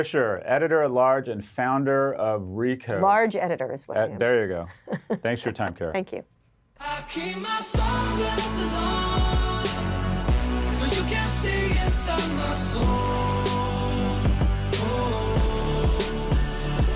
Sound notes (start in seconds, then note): 4.6 laughs